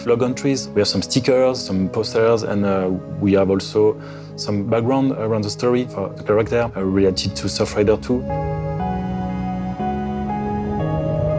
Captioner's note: speaking French